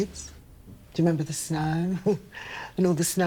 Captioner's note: Evelyn chuckling